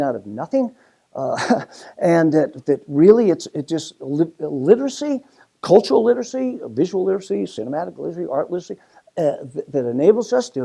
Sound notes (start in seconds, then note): 1.3 laugh